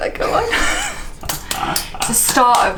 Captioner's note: laughs